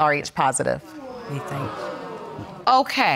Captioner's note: audience gasping